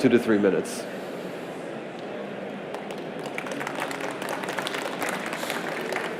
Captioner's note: applause